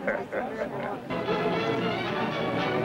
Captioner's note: laughter